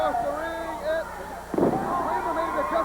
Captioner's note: crowd cheering